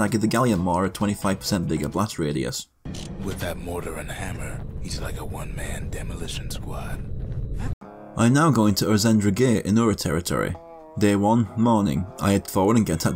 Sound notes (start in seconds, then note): 2.8 in-game audio